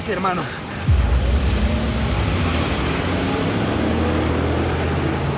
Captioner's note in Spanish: Chirrido de llantas